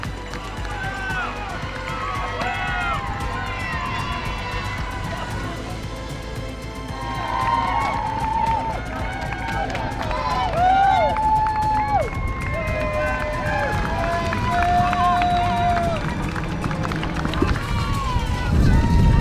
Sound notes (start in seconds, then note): 10.0 wooo